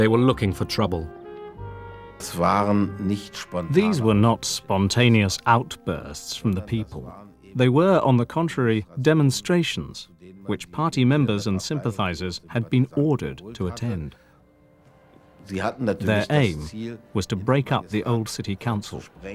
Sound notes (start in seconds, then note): 2.6 speaking german